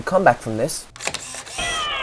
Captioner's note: camera Click